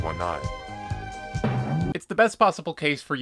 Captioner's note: cartoon drum sfx